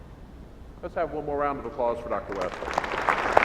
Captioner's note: applause